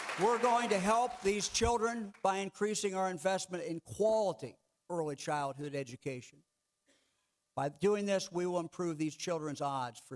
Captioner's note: clapping